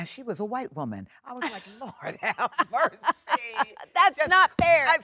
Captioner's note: Jennifer laughs